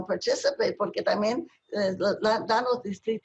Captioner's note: speaking spanish